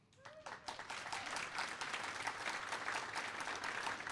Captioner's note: cheers and applause